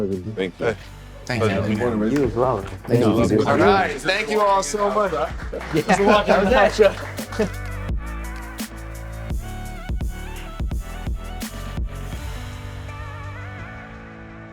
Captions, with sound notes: - Thank you. - Thanks man. - You as well. Thank you all so much. (all clapping) (upbeat music)